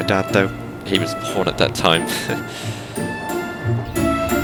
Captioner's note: subtle chuckle